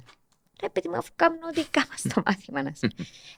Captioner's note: he laughs